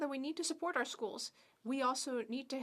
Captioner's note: speaking French